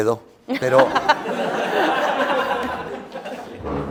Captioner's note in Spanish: Risas